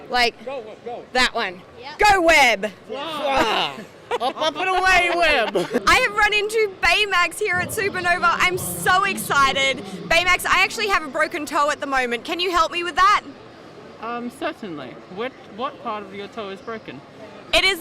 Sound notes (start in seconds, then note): 5.1 laughing